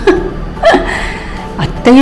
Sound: laughs

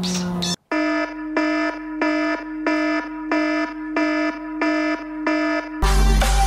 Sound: alarm

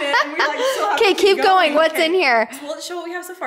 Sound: laughing

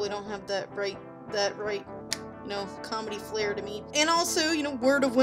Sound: snap

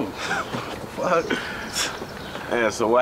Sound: laughing

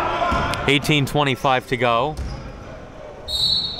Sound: yelling

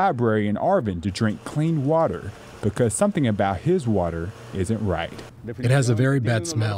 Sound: spanish

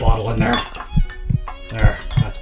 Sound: heart beating

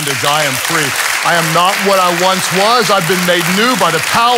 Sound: congregation applauds

